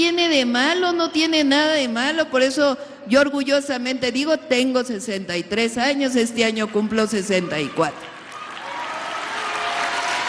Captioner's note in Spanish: aplausos